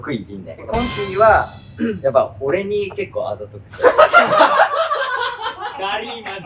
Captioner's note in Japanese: 爆笑の声